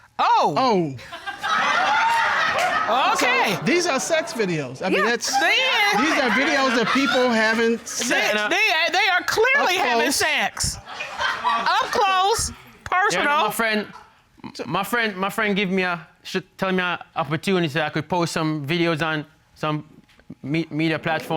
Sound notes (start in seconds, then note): 1.3 audience laughs